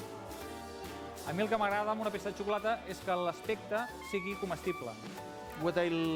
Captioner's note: non-english speech